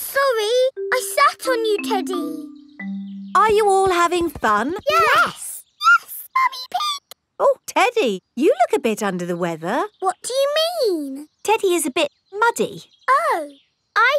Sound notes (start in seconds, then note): 5.8 in high-pitched voice; 10.2 in normal voice